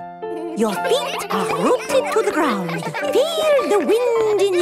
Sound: all giggling

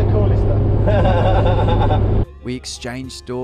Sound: laughing

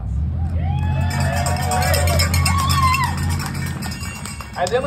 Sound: cheers

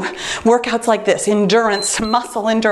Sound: timer beeps

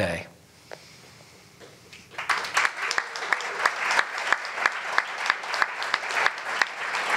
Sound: applause

